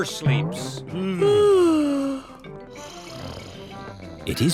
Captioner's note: both yawn; both snore